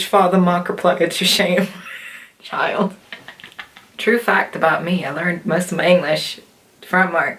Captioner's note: laughter